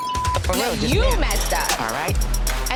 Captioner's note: beeping